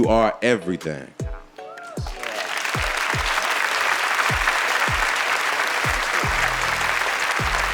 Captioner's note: audience cheering; audience applauding